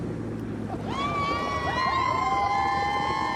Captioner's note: cheers; laughs